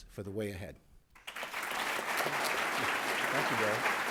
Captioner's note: clapping